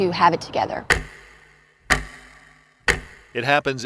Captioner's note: clock ticking